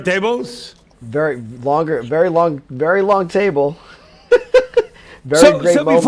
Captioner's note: laughs